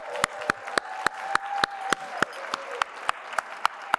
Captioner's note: applause